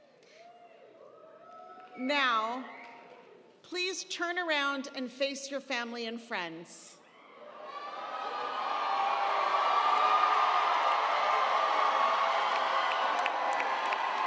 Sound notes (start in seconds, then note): 0.1 audience cheering; 7.2 audience cheering; 7.7 audience applauding